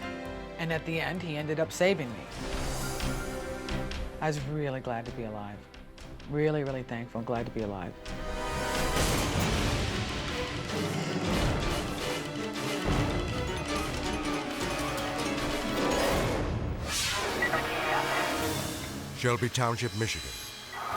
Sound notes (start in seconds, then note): 0.0 soft music; 8.8 dramatic music; 16.4 air whooshes